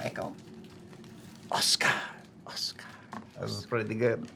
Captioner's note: echoing